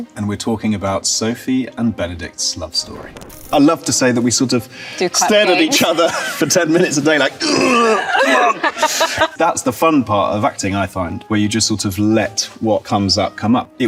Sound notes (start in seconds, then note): 3.4 film reel clicks; 5.2 both laugh; 7.4 grunts